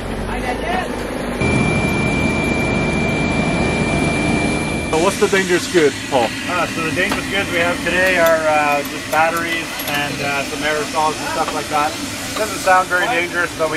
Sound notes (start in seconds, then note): 1.7 engine roaring